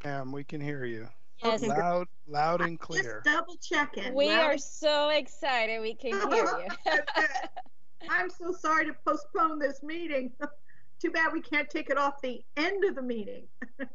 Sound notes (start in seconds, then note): 6.0 laughs; 6.1 chuckles; 10.4 chuckles; 13.6 chuckles